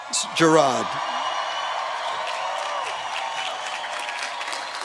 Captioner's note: cheering